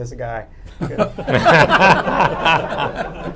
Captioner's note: laughter